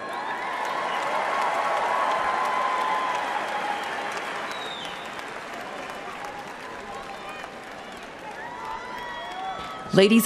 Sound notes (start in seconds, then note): 3.6 speaking Spanish; 6.4 cheering and applause